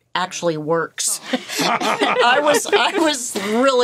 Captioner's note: all laughing